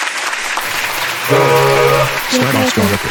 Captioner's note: clapping; horn sound